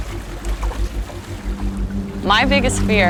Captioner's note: water laps